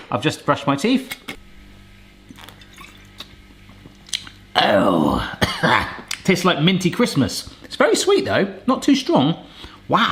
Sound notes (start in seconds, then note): 2.3 wine splashes softly; 4.5 coughs